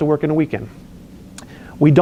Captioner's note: lip smacks